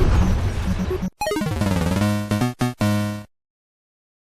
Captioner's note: Bomberman 1 death sound